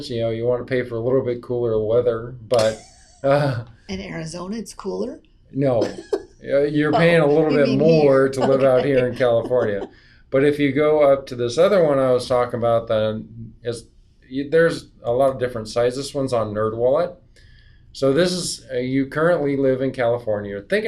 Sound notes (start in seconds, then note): 2.5 laughs